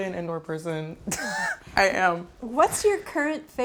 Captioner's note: laughs